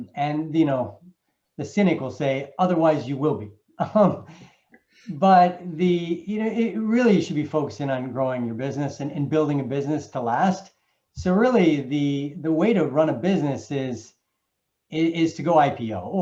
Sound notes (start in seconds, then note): 3.8 chuckles